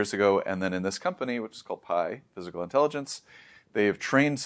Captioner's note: inhales